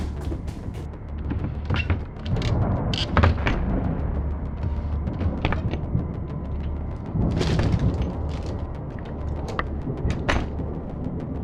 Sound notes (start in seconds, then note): 3.5 tense music continues; 3.5 thunder rumbling